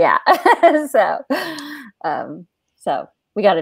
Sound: laughs

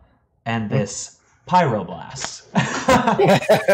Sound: laughs

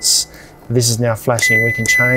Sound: fridge beeps

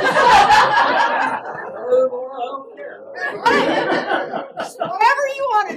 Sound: laugh

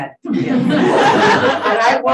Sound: audience laughing

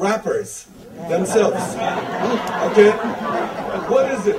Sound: audience laughter

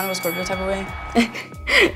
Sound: bell dinging; crowd cheering; giggling

